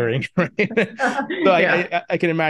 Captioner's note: chuckles